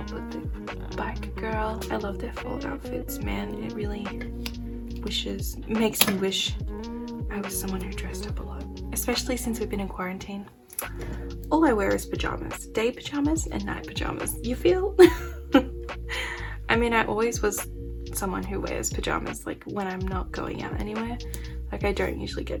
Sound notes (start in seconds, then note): 15.0 laugh